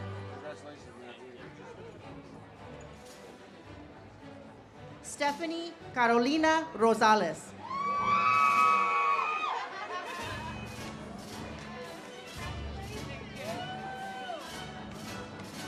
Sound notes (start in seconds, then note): 7.6 audience cheers; 12.7 ceremonial music